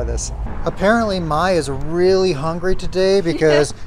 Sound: laughs

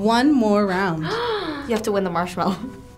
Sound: gasps

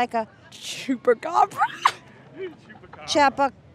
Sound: laughing

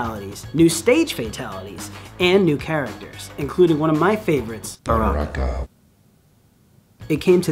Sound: mortal kombat voice Baraka

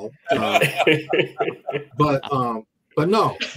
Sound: laughs

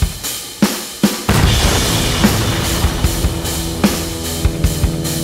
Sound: blasting sound

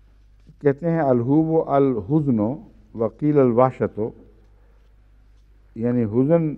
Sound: Arabic

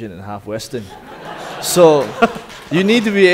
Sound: audience laughing

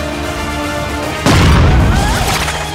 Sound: popping

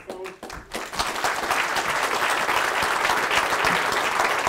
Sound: audience claps

